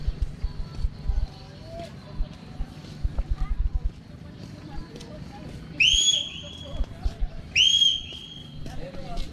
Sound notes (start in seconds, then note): 5.1 whistle sound